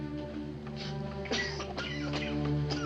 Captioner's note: coughing